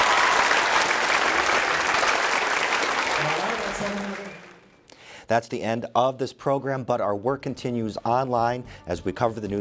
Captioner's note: applause